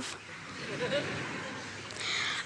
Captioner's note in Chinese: Laughter; 笑聲